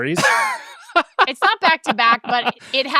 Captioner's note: laughs